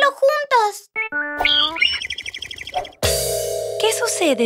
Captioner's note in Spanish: Sonido de pájaro